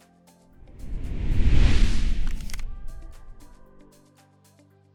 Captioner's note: question whooshes